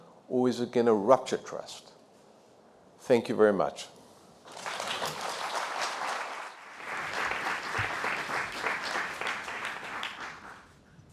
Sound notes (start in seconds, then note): 4.4 applause